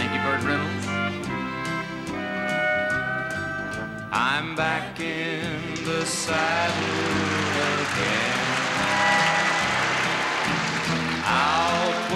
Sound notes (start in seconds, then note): 5.7 crowd applauding